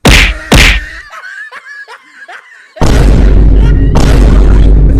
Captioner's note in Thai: เสียงหัวเราะ